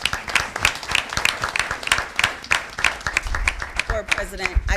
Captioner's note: audience applauding